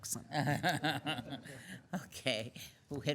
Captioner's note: laughing